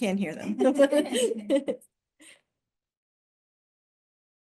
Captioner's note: laughter